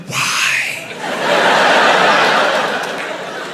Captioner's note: crowd laughs